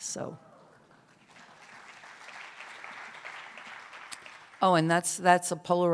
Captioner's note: cheers and applause